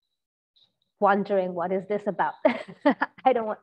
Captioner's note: laughs